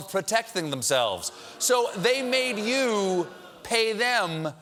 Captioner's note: audience reacts